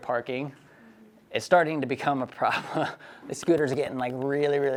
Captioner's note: laughs